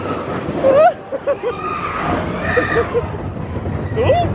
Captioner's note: laughing